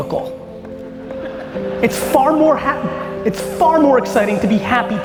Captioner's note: audience laughing